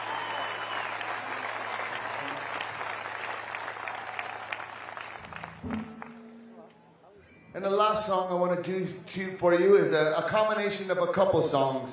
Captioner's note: applause